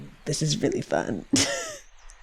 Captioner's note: laughs